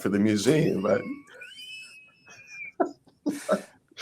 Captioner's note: laugh